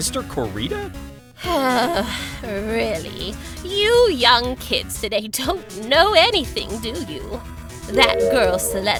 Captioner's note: sigh